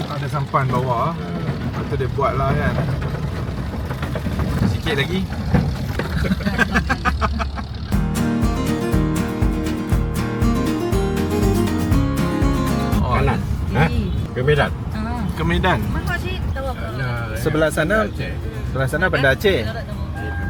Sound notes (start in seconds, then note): 6.0 laugh